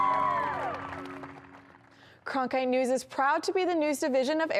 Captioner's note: cheering